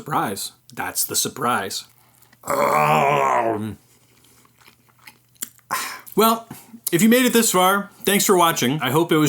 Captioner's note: chew